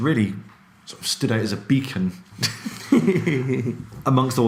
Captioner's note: laughing